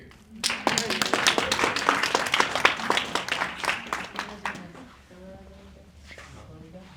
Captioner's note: applause